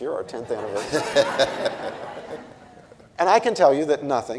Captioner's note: audience and Cornel laughing